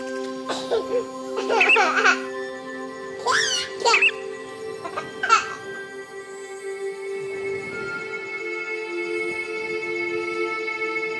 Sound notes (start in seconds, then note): 3.2 child laughing